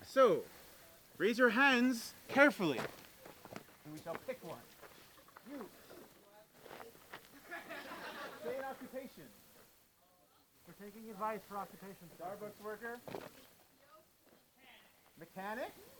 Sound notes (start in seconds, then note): 7.3 crowd laughs